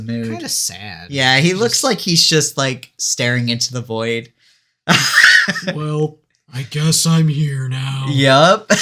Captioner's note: deepened voice of ennui